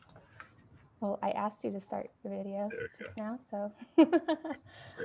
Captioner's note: laughs